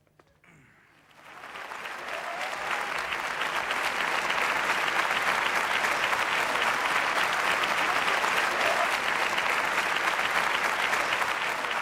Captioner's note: applause